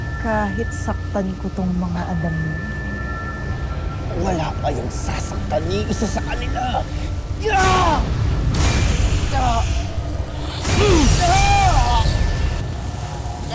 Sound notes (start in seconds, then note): 0.0 groaning; 7.3 growls & groans; 9.1 grunts & groans; 10.3 powerful whoosh-crackle